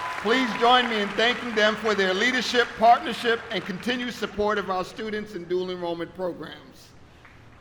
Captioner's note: applause